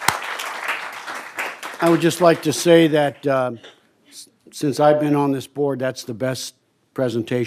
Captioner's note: applause